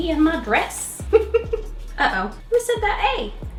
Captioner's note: chuckling